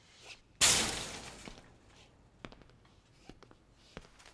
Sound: metal banging

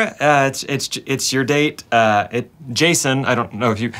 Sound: stammering

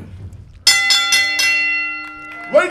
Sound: bell ringing

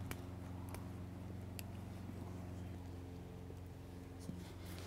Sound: tomatoes snapping off

